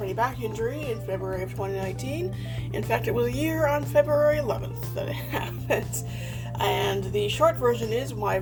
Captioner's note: chuckles